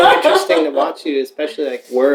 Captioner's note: laughter